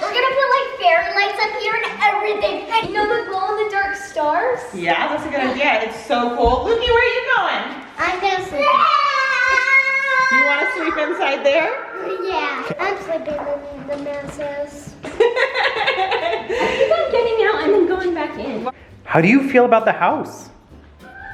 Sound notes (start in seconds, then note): 10.0 screams; 15.1 laughs